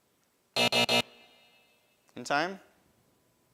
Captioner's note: alarm buzzes